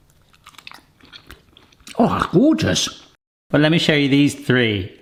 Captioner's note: pear crunching